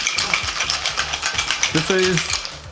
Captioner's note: ice shaking; laughing